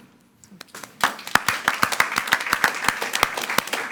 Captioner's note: all applauding